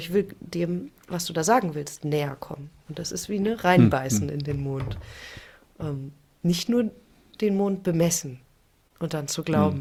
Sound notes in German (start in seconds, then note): 3.8 räuspern